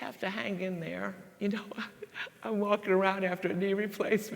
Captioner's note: laughs